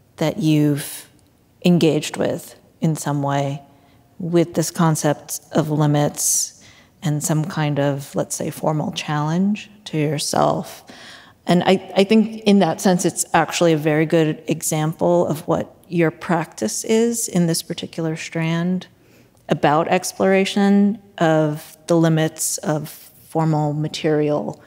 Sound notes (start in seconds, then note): none